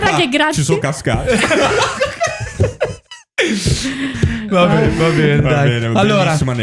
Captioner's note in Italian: laughter